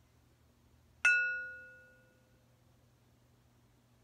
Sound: ringing

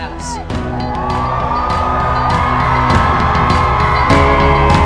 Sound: cheering

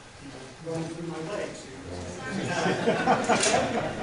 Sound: laughter

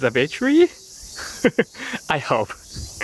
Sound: chuckle

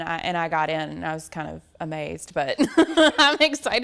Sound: laughs

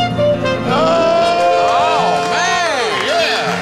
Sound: loud applause

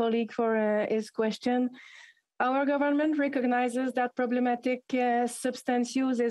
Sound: speaking French

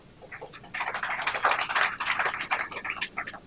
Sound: applause

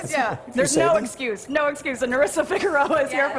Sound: laughter

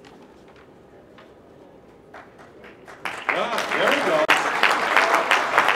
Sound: applause

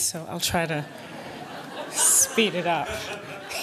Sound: laughter

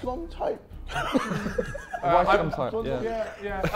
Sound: Sidemen laughing

